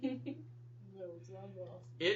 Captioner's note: laughter